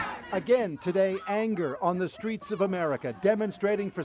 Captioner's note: chants